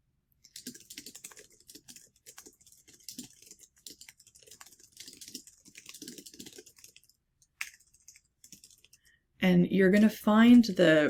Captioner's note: keyboard clicking